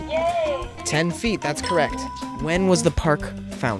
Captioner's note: bell dings